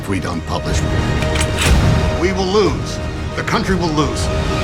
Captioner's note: typewriter clicks; loud dramatic music